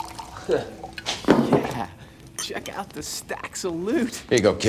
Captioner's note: chuckles